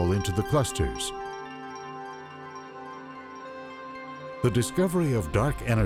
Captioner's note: chiming rings